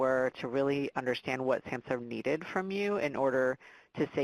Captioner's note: voice muffled